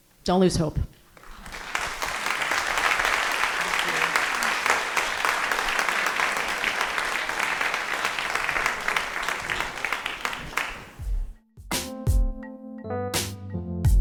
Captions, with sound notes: Don't lose hope. (audience applauding) (upbeat music)